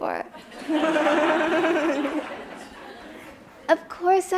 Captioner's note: audience laughs